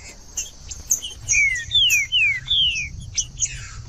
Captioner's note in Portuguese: trinca ferro cantando